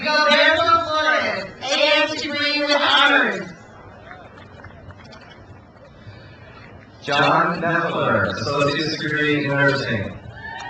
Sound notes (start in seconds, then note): 3.8 crowd applauds; 10.3 crowd cheers